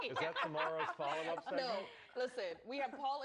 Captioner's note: laughter